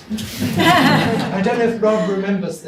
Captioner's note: audience laughs